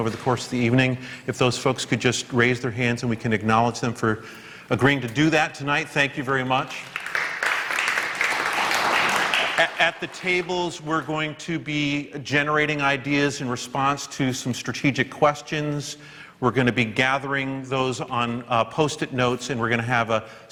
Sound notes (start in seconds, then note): 8.3 applause